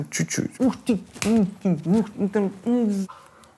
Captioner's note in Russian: умилительные и умилённые звуки